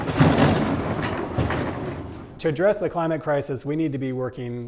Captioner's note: door rattling